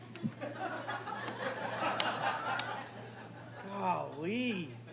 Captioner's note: crowd laughing